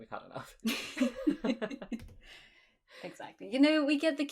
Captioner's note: both laugh